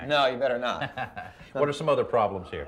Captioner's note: laughs